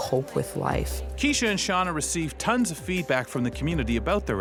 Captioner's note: voiceover